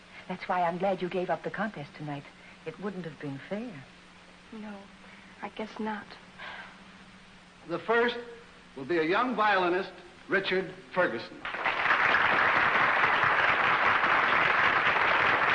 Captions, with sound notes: That's why I'm glad you gave up the contest tonight. It wouldn'tve been fair. No, I guess not. [Gasps] The first will be a young violinist, Richard Fergason [Applause]